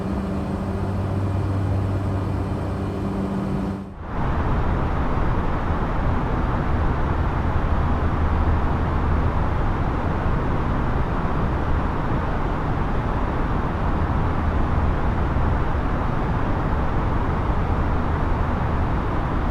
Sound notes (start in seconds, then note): 4.3 wind blowing